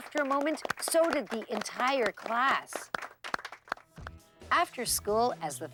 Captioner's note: applause